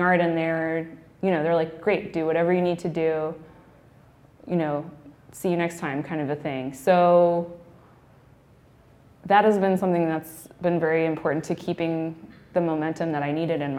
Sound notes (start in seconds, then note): none